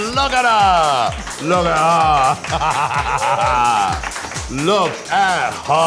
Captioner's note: laughing